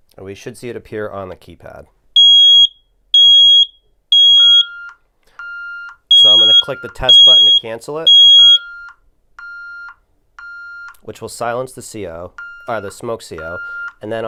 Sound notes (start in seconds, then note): 1.9 alarm beeping; 8.0 beeping continues